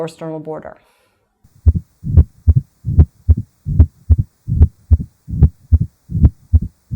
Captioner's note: heart beating